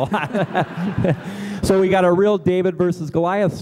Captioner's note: laughter